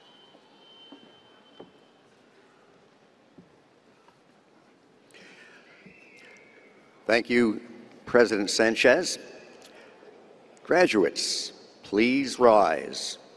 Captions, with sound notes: [WHISTLING] Thank you, President Sánchez, Graduates, please rise.